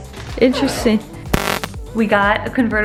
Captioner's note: stungun buzzes